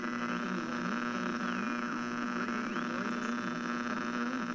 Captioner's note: radio static fx